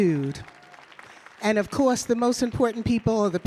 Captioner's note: audience clapping